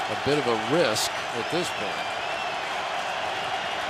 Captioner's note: crowd cheering